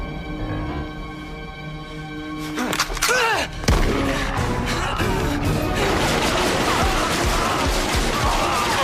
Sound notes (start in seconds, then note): 3.8 gunfire